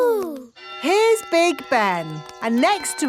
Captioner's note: clock chimes